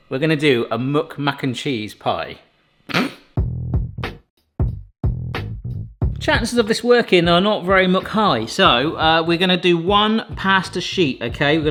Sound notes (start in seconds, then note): 2.9 host laughs; 3.0 mid-tempo instrumental music